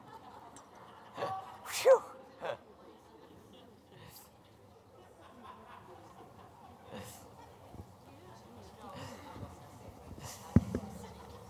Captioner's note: laughter and chatter